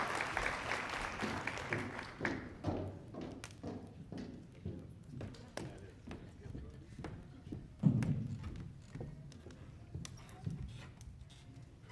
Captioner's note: applause